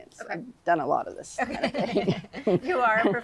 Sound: laughs

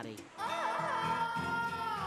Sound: wailing

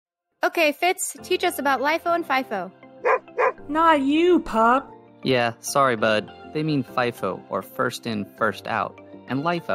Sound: bark

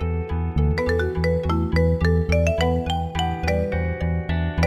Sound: phone ringing

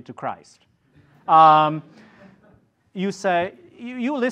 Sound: audience laughs

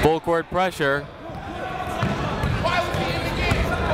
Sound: chatter

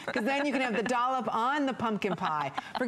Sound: laughter

